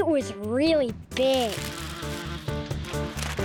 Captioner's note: bees buzzing